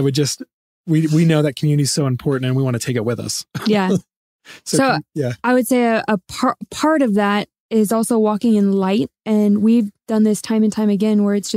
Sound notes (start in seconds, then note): 3.5 laughs